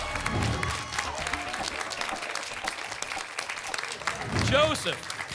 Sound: applause and cheering

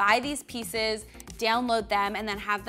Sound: mouse clicking

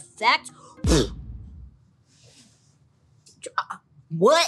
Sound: blows air

